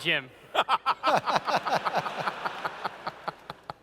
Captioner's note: laughter